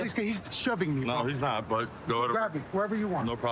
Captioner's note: none